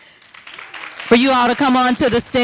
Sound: audience applauding

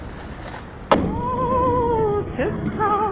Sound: thud

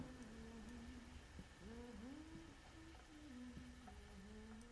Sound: insects chirping

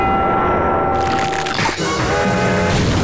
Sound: crashing, cracking; cracking

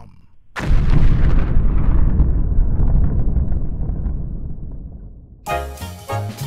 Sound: explosion

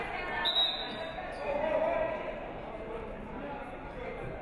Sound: referee whistles

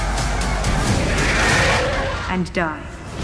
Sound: roars

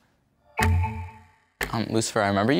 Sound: timer clicking

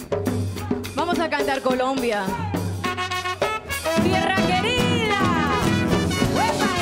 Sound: speaks in Spanish

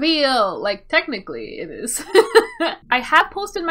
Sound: laughs

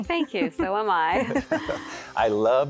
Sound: laughter

